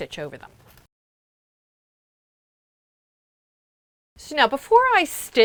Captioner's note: no Sound Present